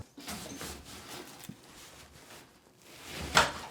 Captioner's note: shuffling